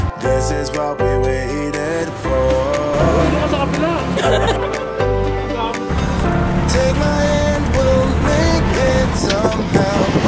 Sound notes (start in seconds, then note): 3.0 laugh